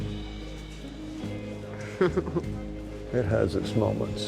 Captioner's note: laughs